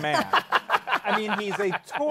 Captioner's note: laughter